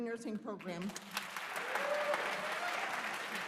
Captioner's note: applause